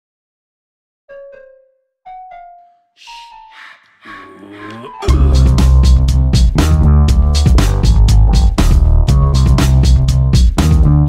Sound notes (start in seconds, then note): 0.0 sound of boo I got you